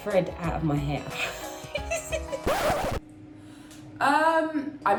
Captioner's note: laughs